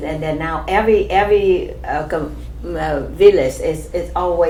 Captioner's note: none